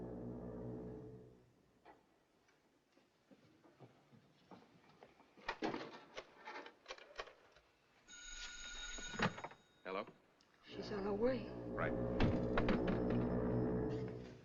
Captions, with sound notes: - [Ringing] - Hello? - She's on her way. - Right.